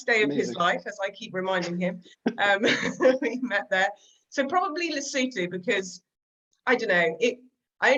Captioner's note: laughter